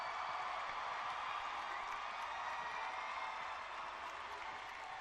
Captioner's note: cheering and clapping